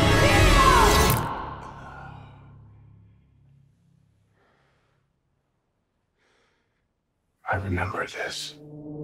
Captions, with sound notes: - Neo! [exhales sharply] [breathes heavily] - I remember this.